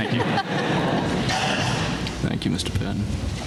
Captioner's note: laughter